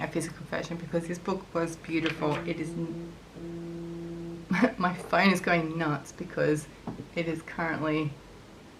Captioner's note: phone vibrating